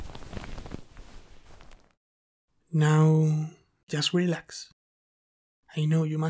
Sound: sheets rustling

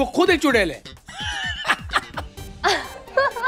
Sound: laughing; laughter

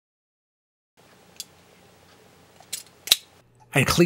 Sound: click

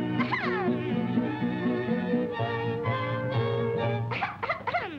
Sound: Betty clears throat

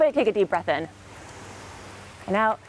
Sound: inhaling

